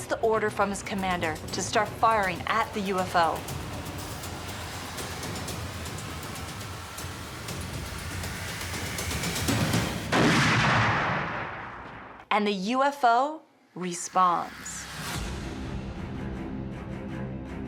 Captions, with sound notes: from his commander to start firing at the UFO. [exciting music] [gunshot] And the UFO responds.